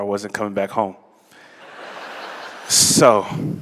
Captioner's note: laughter